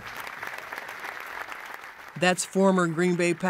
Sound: audience applause

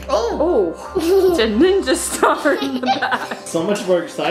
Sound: laughs

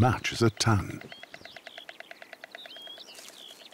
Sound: storks nattering

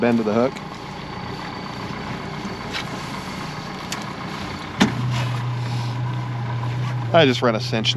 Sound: boat engine idling

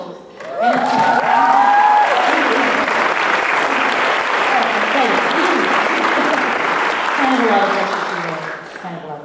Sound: applause

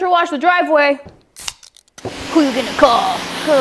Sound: can top pops

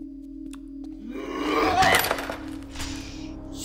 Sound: scream; loud grunt

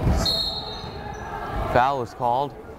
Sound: whistle blows

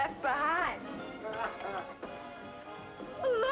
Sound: man laughing

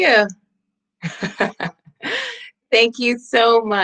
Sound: laughs

